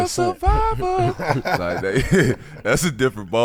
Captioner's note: laughing